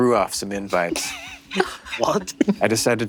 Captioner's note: Lou and Ally laugh